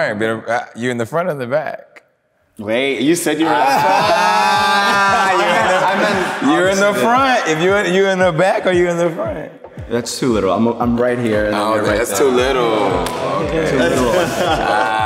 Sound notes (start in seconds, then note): 3.4 group exclaiming